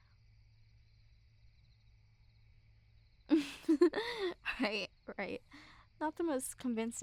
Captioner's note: soft laugh